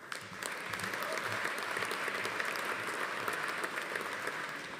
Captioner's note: audience applauding; attendee cheering